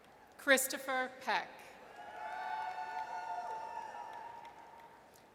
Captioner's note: audience cheers